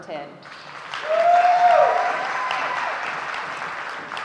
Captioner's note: audience cheering